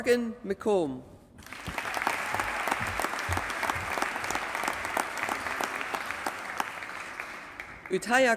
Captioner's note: applause